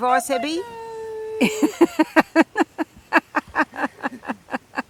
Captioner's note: laughter